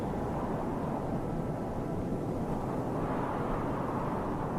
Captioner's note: wind whooshing